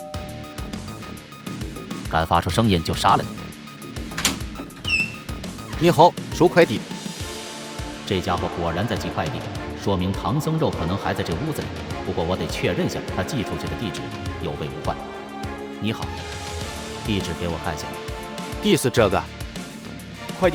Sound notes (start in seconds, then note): 0.0 doorbell sound; 4.0 door opening sound